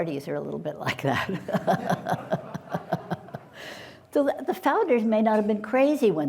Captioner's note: laughter